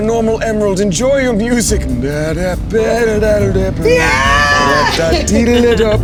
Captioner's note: imitating elevator music